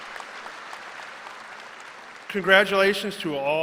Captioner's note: cheering and applause